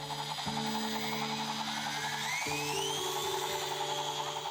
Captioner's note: subtle music; whizzing sound